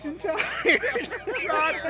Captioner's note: laughing